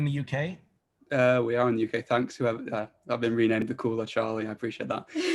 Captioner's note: laughter